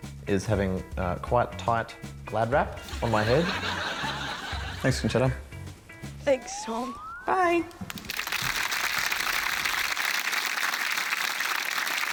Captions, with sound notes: is having quite tight glad wrap on my head. Thanks, Concetta. Thanks, Tom. Bye! (APPLAUSE)